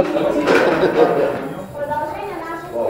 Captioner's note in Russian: смех